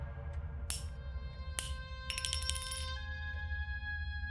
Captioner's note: gun firing; bullet clanking; gentle music